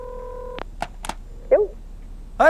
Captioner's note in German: Telefon klingelt